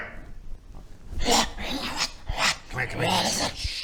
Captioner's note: hrrwrgh rrgrra wahh